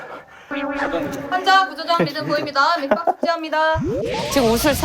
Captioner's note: laughing nervously from exhaustion